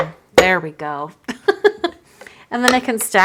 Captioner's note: laughs